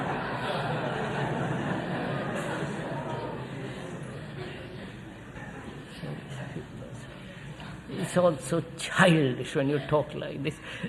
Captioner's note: laughter